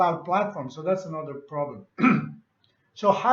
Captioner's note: clears throat